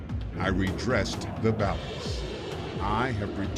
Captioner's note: rocket engine revving